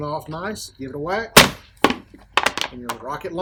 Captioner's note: banging